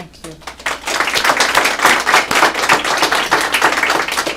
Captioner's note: applause